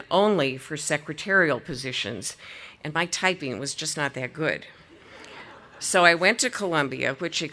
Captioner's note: audience laughing